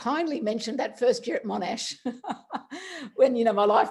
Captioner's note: laughs